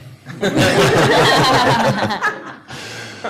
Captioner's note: laughter